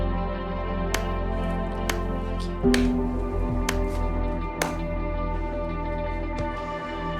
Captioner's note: slow clapping